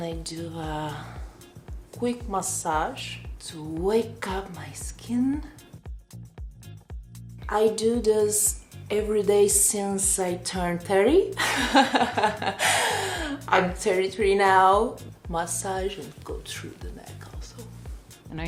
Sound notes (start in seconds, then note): 5.6 upbeat music; 11.4 laughing